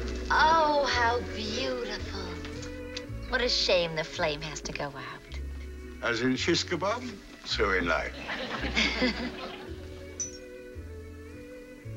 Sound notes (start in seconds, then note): 8.1 laughter